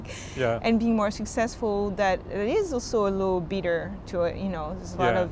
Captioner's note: laughs